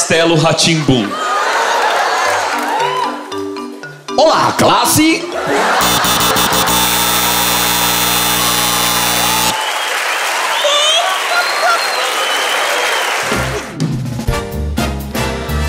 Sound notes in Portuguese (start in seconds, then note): 7.6 campainha; 9.5 aplausos